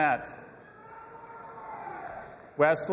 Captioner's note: audience applauding and cheering